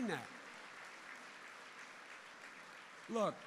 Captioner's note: applause